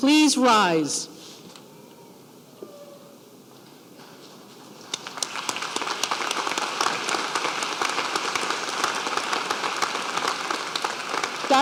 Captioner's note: applause